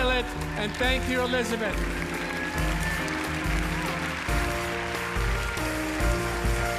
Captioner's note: audience applauding; inspirational music